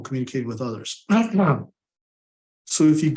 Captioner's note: clears throat